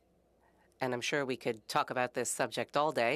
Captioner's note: speaking French